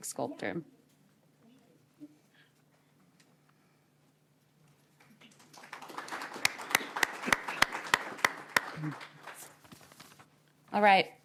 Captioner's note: applause